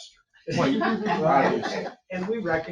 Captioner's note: people chuckling